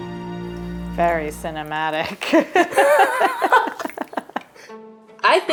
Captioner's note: both laugh